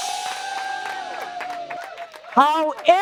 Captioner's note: cheering